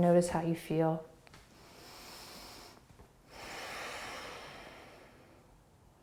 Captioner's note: deep breathing